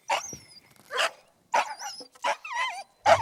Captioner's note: dogs barking